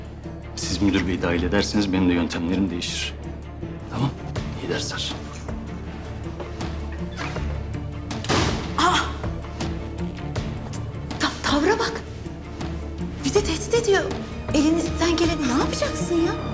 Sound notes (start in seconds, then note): 6.8 door closed